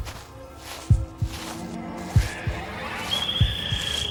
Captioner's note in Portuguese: Cresce o som dos pássaros